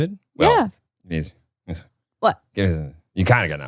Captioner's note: mumbling